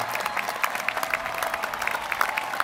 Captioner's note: applause